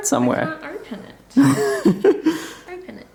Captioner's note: laughter